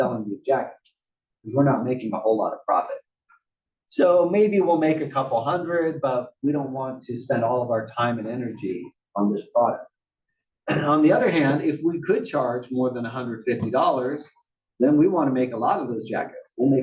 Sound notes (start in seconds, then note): 10.7 cough